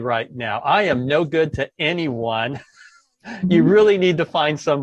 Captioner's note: laughs